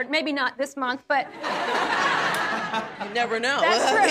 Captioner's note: audience laughs